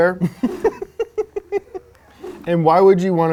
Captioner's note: laughs